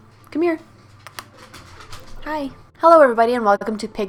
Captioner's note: coaxes dog